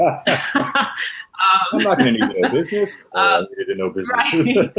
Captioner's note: laughter; laughter